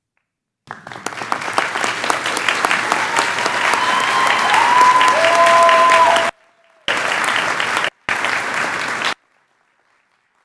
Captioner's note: clapping